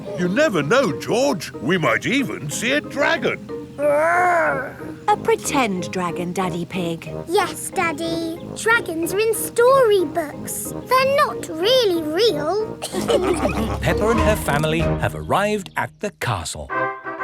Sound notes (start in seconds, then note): 12.9 all laughing